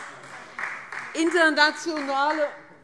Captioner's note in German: Beifall Freie Demokraten